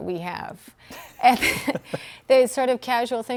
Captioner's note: laughing